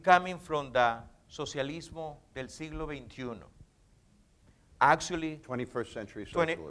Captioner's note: speaking in foreign language